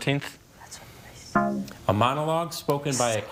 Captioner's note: tone clunks